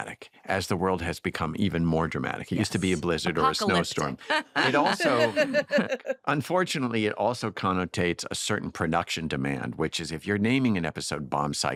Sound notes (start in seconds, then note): 3.2 laughs; 3.7 laughter